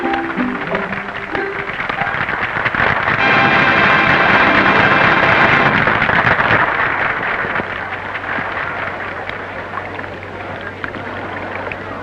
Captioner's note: applause